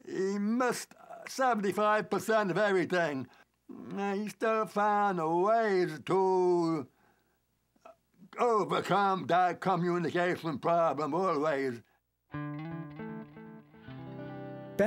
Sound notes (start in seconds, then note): none